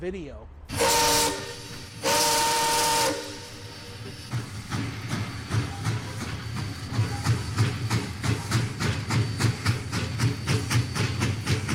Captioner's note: steam whistle and train sounds